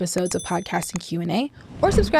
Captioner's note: bells dinging; clicking; whooshing